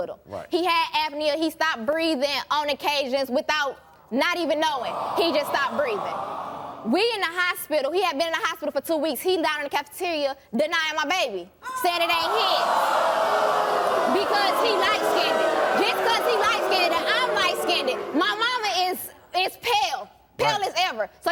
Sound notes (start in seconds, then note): 4.7 audience awwing; 11.7 audience booing